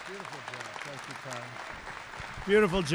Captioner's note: applause